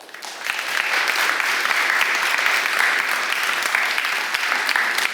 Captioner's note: applause